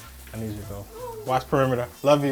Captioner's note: dog whines